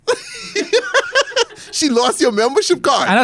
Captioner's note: laughs